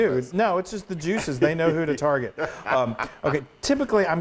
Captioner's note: laugh